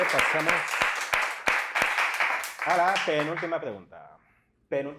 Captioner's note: applause